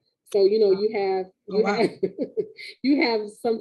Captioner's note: laughing